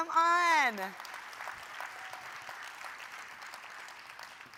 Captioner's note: audience clapping